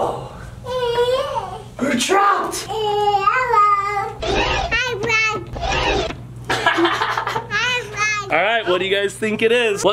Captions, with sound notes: Whoa, we're trapped. (computer sound effect) (computer sound effect) (laughs) All right, what do you guys think it is?